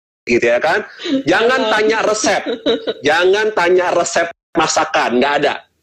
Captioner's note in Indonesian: tertawa